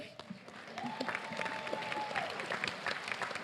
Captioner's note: applause